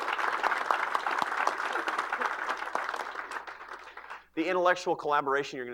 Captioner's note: applause